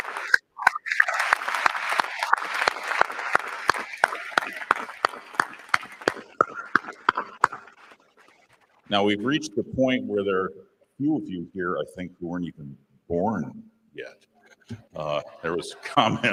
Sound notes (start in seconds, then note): 3.1 applause